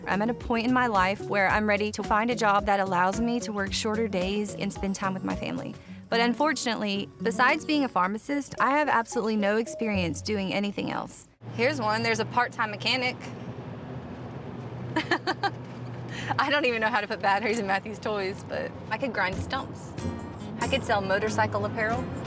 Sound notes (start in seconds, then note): 15.0 laughing